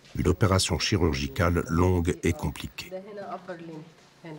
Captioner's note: Arabic spoken audio